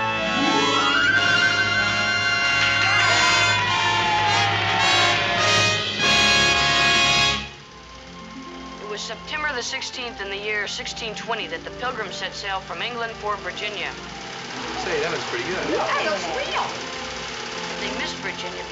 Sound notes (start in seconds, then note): 1.8 cheering and applause